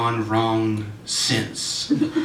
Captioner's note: audience Reaction